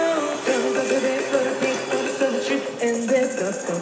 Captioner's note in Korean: 흥얼